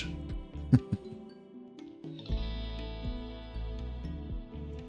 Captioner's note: chuckles